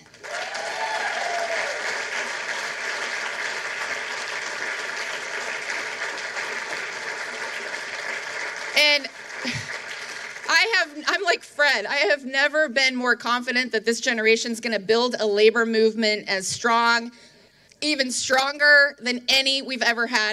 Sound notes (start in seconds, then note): 7.5 applause